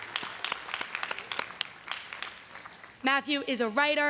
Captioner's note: everyone cheering and applauding